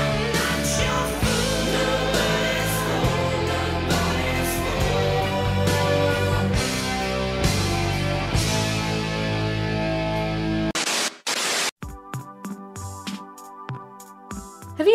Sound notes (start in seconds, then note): 10.8 video buzzing; 11.8 calm music